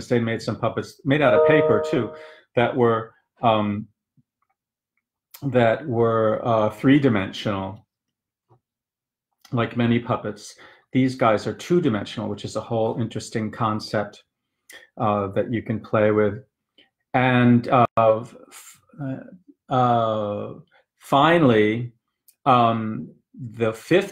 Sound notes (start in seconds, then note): none